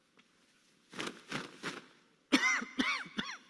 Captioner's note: clothes rustling; coughing